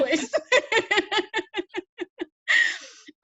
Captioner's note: both laugh